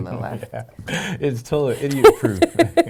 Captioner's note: laughing